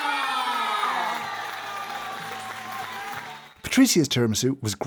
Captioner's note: cheers & crowd applauding